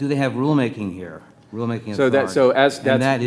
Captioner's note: faintly speaking